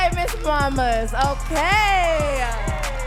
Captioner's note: audience cheering and clapping